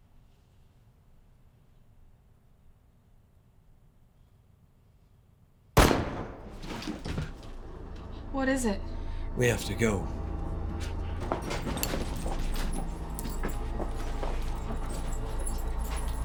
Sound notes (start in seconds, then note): 5.8 gun fires; 10.4 suspenseful music